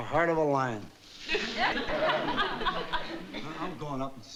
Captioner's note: audience laughing